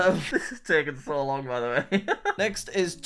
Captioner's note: laughs